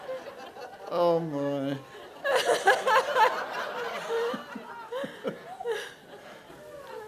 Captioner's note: laughs